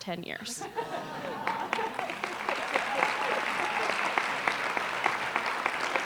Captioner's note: applause